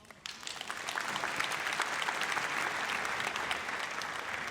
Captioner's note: audience applauds